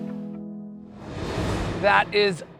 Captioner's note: graphics whooshing